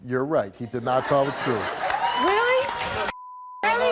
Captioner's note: beep